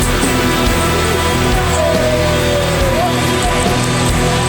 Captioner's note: happy sounds